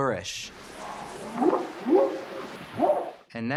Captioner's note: whooping sound